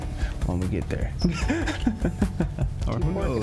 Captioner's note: laughs